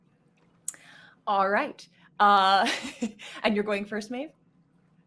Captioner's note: laughs